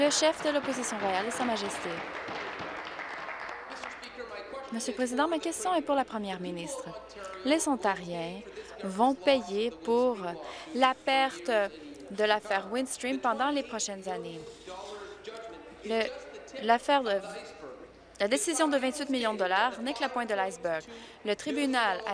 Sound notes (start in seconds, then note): 4.5 applause